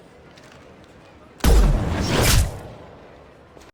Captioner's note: gunshot